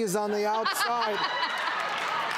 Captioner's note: laughing; audience clapping